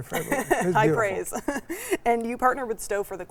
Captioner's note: laughs